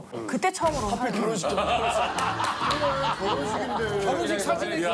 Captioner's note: clapping